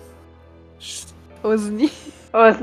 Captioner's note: shhh; laugh; laughter